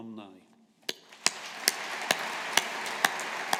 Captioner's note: audience applauding